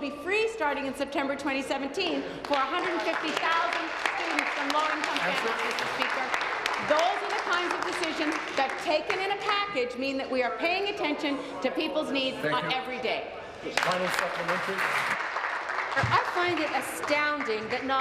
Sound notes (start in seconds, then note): 10.0 applause